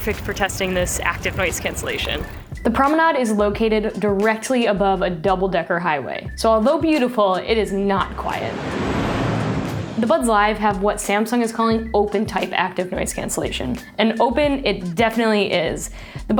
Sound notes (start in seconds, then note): 8.2 highway noise